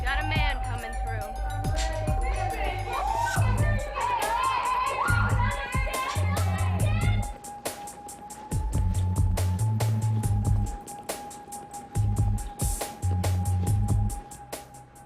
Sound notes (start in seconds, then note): 4.8 overlapping chatter; 8.7 upbeat music